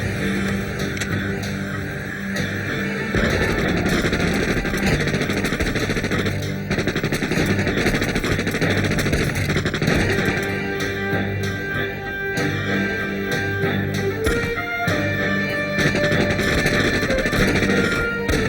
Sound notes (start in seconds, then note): 1.8 gun cocks; 3.2 gunshots fire; 12.5 dramatic orchestral music; 13.9 gunshots fire